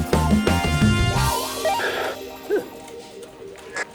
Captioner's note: static-filled police radio transmission starts